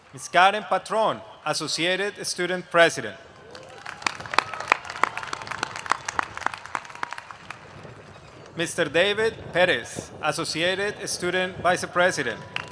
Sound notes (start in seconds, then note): 3.2 applause; 11.9 applause